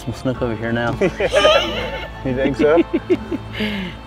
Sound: laughter

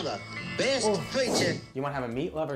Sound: host gagging; air whooshes

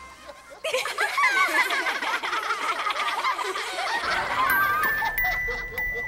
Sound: laughter

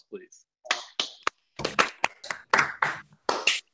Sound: all clapping

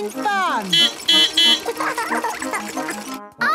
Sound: beeping; laughing

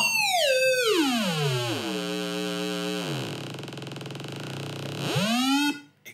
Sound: lower square wave noise

